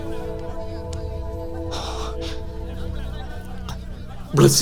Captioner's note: indistinct chatter